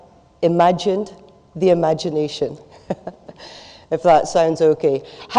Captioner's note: laughs